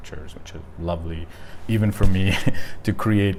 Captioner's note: chuckling